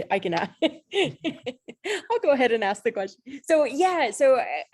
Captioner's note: laughs